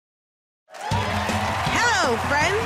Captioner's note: cheers and applause